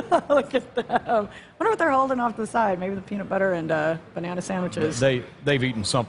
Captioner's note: laughter